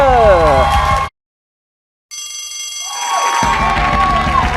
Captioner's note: bell rings; cheers and applause